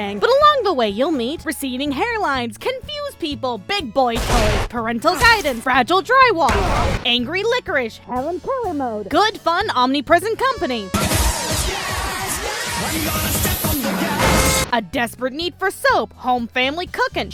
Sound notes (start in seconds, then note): 13.8 honk